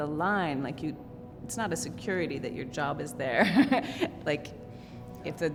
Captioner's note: chuckles